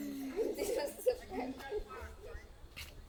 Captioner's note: kids scoff